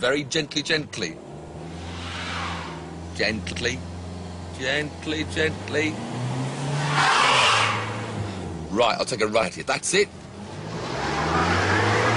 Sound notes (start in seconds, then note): 6.9 tires screech